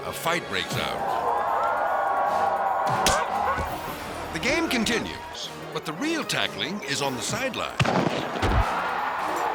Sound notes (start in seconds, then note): 0.7 crowd shouting